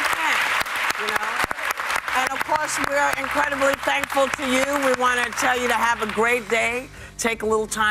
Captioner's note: applause